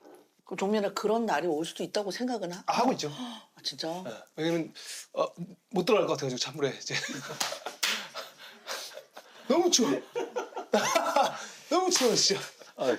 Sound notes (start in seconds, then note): 10.5 laughing